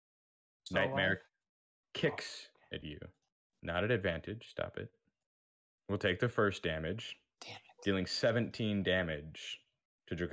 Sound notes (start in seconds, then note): 6.8 hushedly